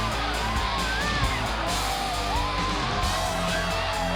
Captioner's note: crowd cheering